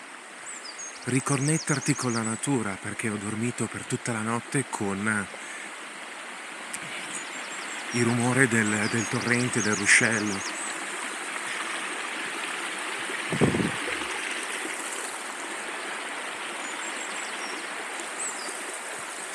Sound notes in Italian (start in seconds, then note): 9.9 Applauso